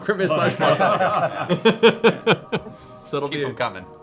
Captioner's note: laughter